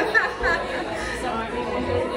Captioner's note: laughs